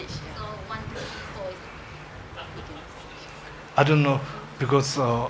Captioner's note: woman speaks off mic